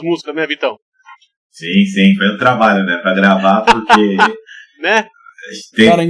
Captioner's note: laughs